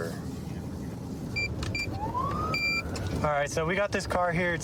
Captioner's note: buttons beeping